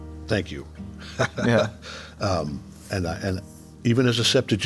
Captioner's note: J.K. laughing